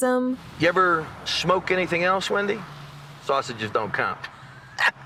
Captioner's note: laughs